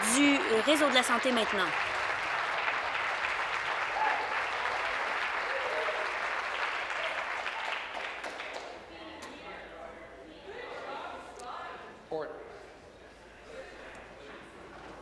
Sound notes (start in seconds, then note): 3.9 applause